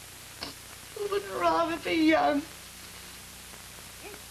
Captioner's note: she sobs